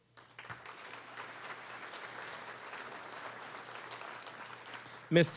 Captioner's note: applause